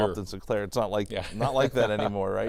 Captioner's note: laughs